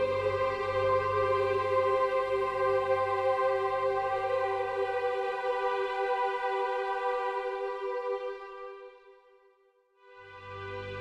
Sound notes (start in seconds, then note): none